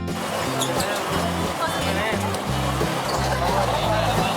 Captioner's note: chatting